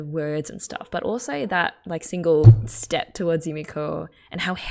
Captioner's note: hits table